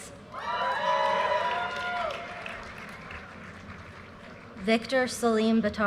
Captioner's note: audience cheers and applause